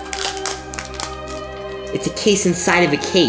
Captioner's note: plastic crinkling